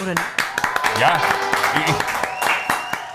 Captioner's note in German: Jubel, Applaus